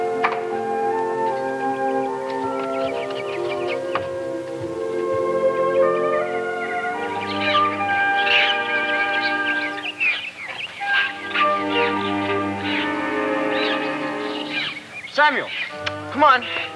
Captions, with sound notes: (playful music) (wildlife chittering) - Samuel! Come on!